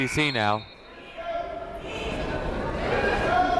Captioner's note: whistle blows